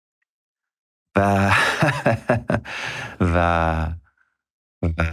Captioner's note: laughs